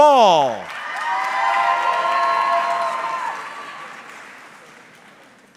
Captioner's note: audience cheering